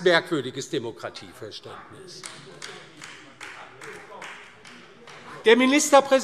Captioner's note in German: Beifall DIE LINKE